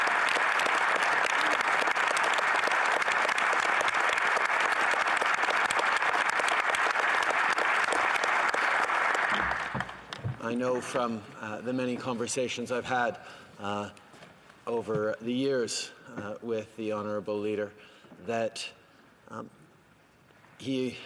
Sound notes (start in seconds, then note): 3.7 applause